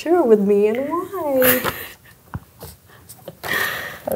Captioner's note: laughs